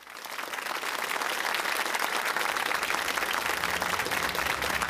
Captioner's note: applause